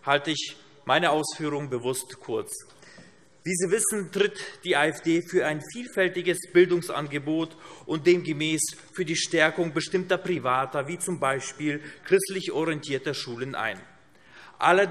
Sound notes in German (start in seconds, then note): none